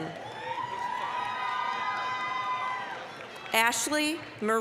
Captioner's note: applause, cheering